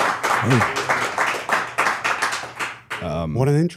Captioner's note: crew applauds